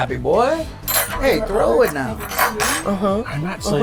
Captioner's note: cutlery clanging